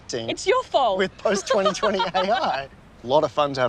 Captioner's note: laughs